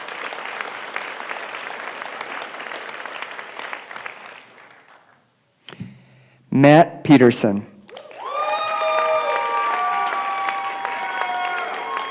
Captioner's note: applause; applause